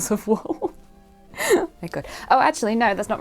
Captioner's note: laughs